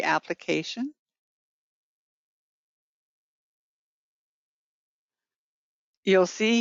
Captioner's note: 5 seconds pause